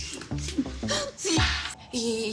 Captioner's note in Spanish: Sollozos